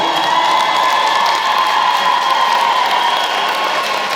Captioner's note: applause